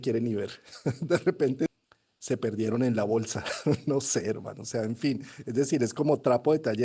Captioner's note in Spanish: risas